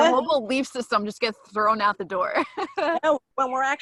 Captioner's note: laughs